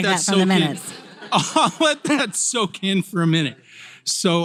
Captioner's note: laugh